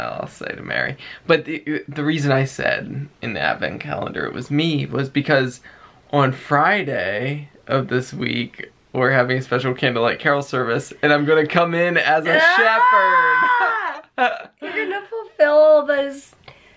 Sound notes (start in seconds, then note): 13.3 laughter